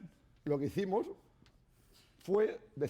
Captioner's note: speaking spanish